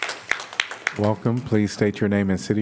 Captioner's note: applause